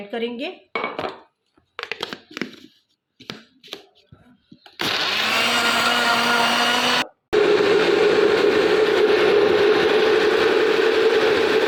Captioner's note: grinding